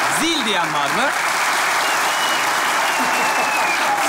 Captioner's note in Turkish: Alkış sesleri